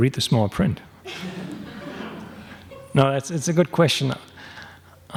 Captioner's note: laughs